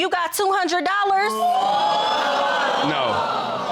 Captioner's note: audience exclaims